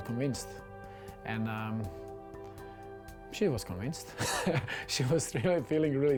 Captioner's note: laughs